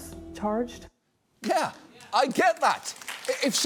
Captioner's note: audience applauds